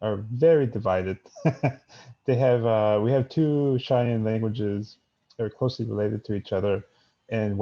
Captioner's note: laughs